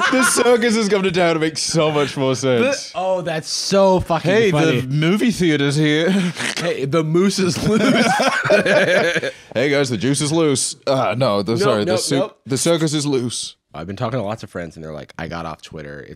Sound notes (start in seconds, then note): 7.5 both laugh